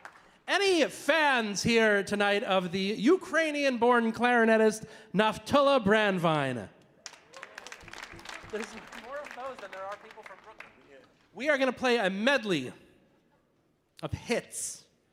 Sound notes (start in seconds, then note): 7.0 audience applauding